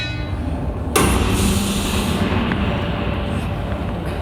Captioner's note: cattle gun shot